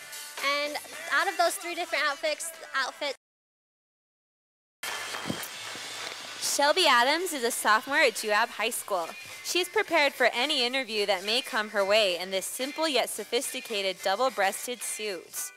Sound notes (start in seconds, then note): 3.1 audio cuts out; 4.5 sound of applause from audience